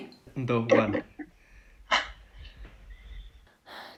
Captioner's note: he exhales